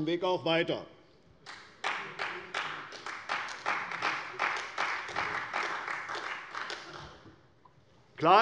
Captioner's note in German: Beifall bei der CDU